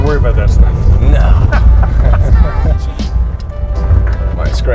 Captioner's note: laughs